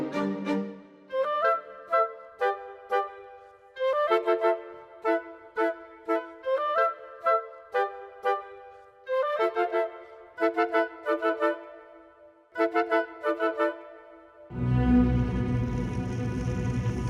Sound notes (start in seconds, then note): 0.2 gentle music; 11.0 flames roaring; 11.0 tense music